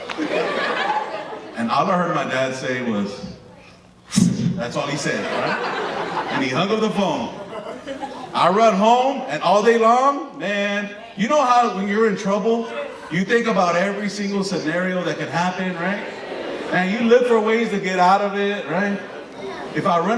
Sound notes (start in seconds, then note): 0.0 audience laughing; 3.9 slicing noise